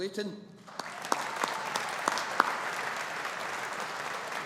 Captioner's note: audience applauding